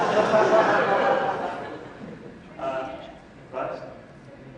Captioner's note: audience laughs